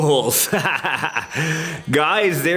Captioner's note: laughing